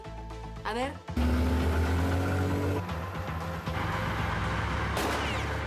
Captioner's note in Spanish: sonido del motor